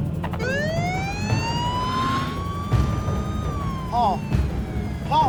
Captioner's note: police siren wailing